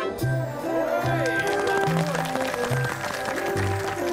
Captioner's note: clapping